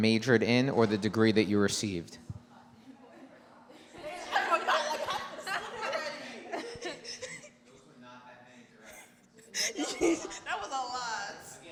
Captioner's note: giggling